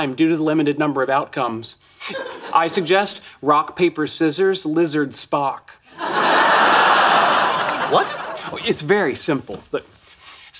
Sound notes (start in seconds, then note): 5.9 audience laughing